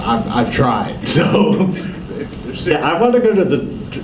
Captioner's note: laughter